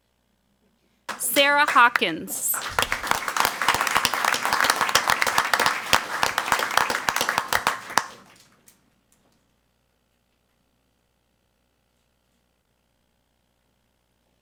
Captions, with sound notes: Sarah Hawkins. (crowd clapping)